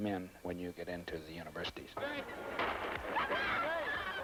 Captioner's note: bang